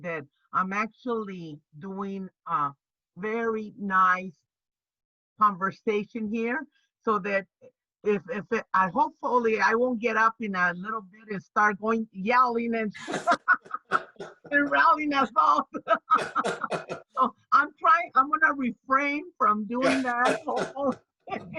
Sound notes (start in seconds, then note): 12.9 laughs; 14.5 through laughter; 15.1 more laughter; 21.3 laughs